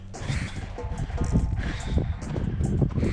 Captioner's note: reggae music; panting